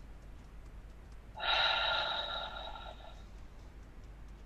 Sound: sighs

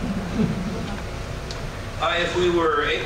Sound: laughter

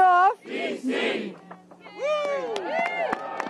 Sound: applause

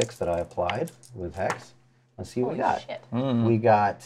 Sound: dice clatters

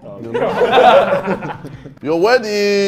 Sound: laughs

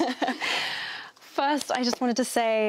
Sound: laughs

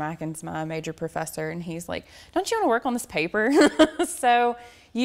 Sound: laughs

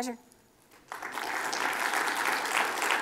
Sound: applause

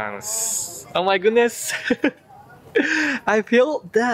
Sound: laughs

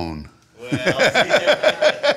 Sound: laughing

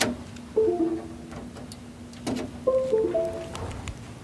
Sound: USB unplug and replug noises

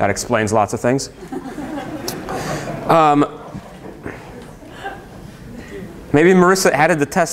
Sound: laughter

